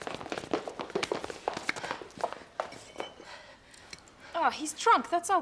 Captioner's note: footsteps shuffling